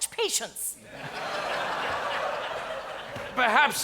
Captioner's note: audience laughs